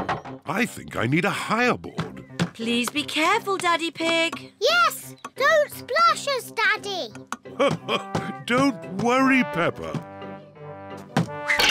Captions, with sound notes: I think I need a higher board. Please be careful, Daddy Pig! Yes, don't splash us, Daddy! (LAUGHS) Don't worry, Peppa!